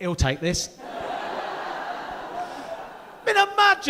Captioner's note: audience laughing